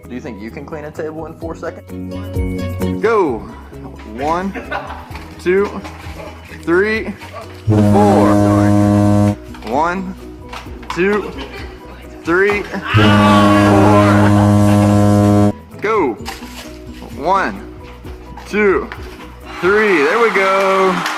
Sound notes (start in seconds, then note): 7.6 horn blows; 12.8 student yells; 12.9 horn blows